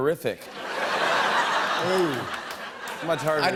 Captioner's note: laughter